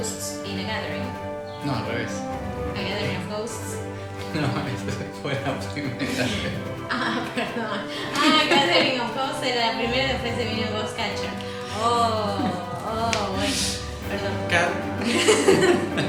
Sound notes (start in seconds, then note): 7.5 laughs; 12.9 laughs